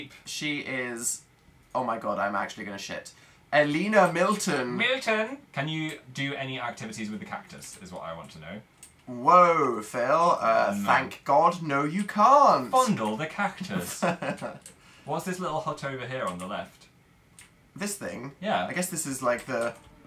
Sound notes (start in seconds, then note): 13.6 laughs